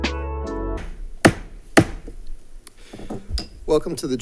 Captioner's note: gavel bangs